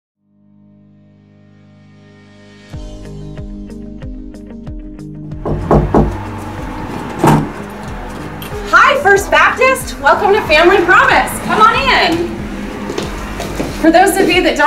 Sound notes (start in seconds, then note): 5.4 knocking